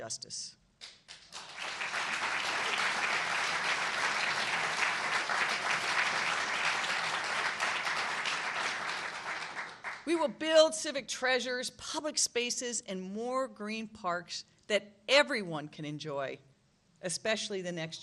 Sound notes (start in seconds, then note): 6.1 applause